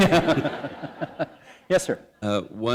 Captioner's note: laughter